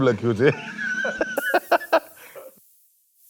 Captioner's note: laughs